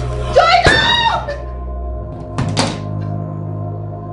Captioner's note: booming; dramatic music